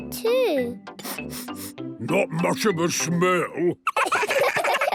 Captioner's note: sniffing; sniffs